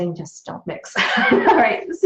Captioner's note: laughs